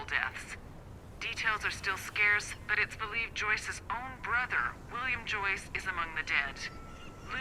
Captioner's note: on the radio